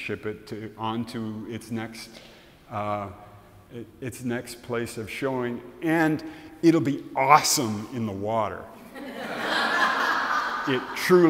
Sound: audience laughs

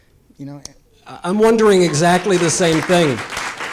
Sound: audience applause

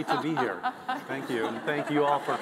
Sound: panelists laughing

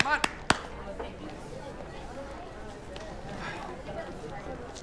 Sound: crowd quietly chattering

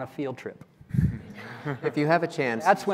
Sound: laughing

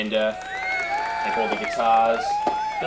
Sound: cheering

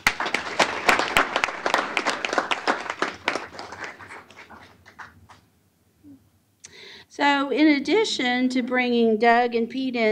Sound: applause

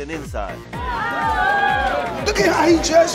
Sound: loud chatter

